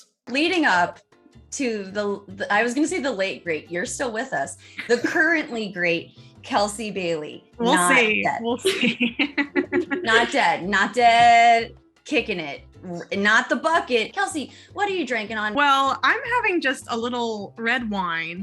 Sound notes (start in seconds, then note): 8.6 laughs